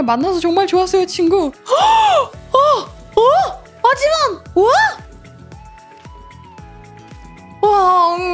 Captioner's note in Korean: 헉 소리